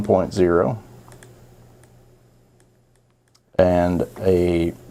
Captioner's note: mouse clicking